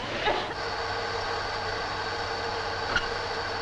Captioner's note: engine whirring